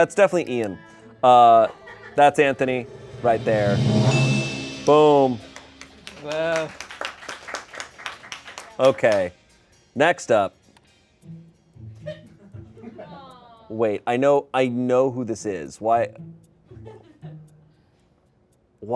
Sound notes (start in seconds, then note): 2.6 bell chimes; 6.3 crew applauds